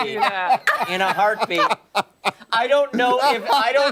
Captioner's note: laughter